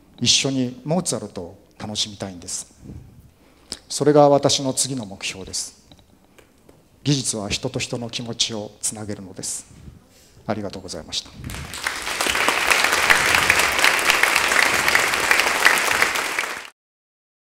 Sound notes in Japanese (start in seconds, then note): 13.8 拍手